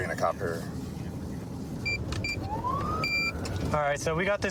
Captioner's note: buttons beeping